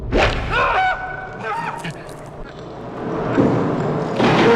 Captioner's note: Dave screams; swooshing